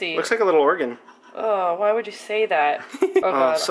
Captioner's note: laughs